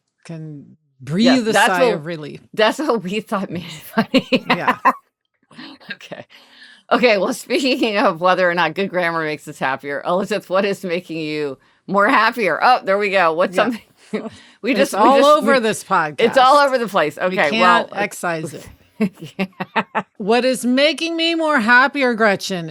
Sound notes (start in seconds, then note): 3.7 laughing; 14.8 laughing; 19.0 laughing